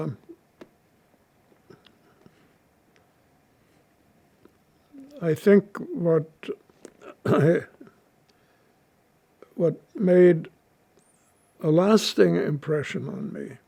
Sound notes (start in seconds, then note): 6.9 clears throat